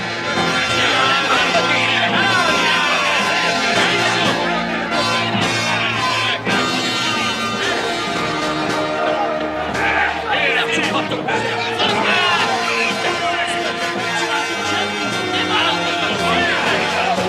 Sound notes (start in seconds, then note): 1.8 clamoring; 9.0 clamoring continues